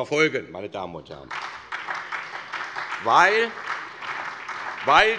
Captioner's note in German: Beifall SPD